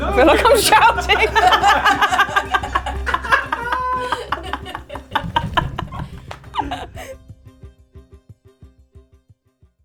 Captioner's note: cackles